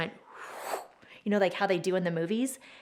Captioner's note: mimics air sucking